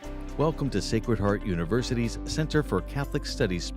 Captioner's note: bright music; voiceover